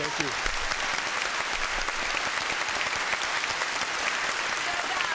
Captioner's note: applause